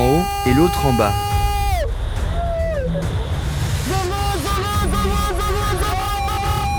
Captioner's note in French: cri